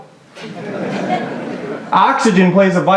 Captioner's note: laughter